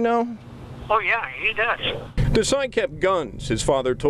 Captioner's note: off-mike